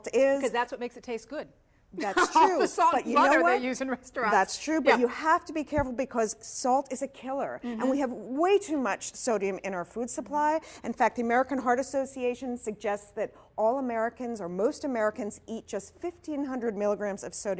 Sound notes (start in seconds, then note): 2.0 laughter